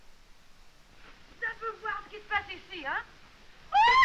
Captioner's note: speaking french